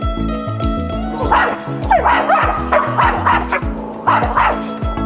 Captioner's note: loud dog barking